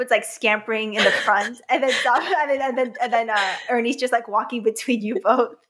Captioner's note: laughs